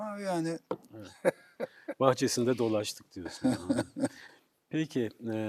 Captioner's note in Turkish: kahkaha